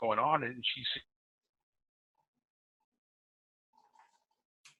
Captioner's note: audio cuts out